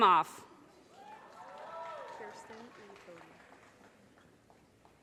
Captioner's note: audience cheers and applause